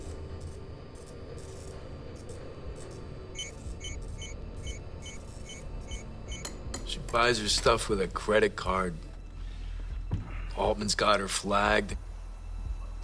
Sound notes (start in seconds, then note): 3.3 beeping